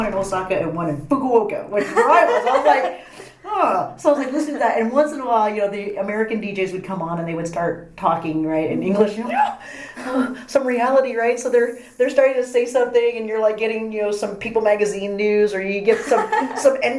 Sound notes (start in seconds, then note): 9.2 joyful exclamation